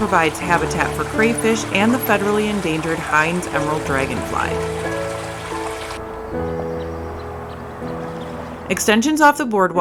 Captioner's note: water flowing